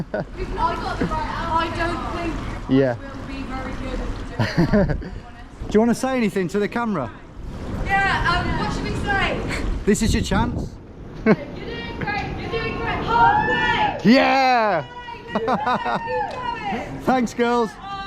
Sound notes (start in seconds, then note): 13.0 both cheer